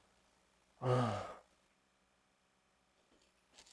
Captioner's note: groans